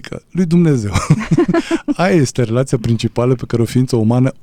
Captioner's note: laughter